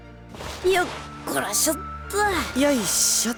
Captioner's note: sitting grunt